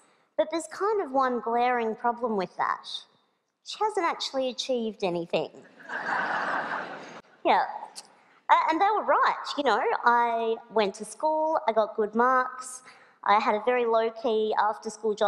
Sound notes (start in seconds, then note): 5.7 laughter